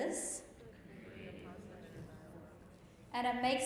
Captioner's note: group murmurs